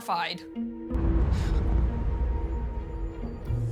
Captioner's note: gasps; booming thud echoes